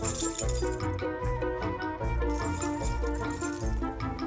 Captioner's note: keys jingling